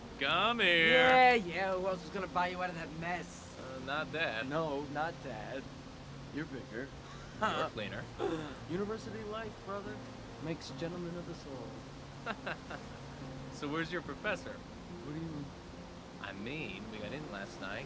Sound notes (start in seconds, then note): 7.0 chuckles; 12.2 laughs